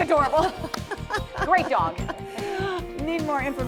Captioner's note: laughter